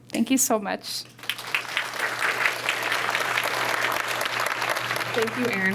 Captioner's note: applause